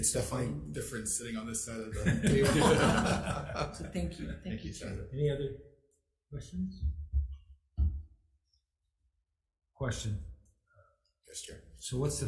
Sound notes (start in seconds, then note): 2.0 all laugh